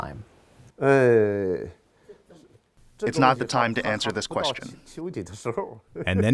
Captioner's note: through translator